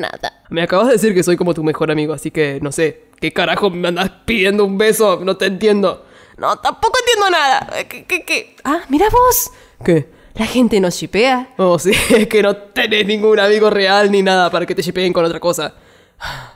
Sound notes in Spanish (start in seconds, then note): 16.2 Suspiro